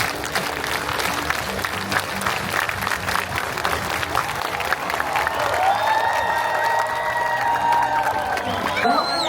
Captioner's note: applause; cheering